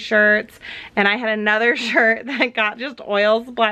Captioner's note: laughs